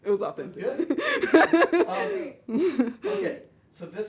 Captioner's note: laughs